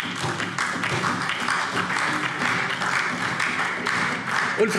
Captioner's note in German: Beifall DIE LINKE und SPD